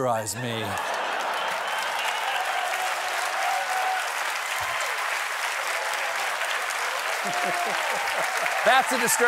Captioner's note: applause; laughter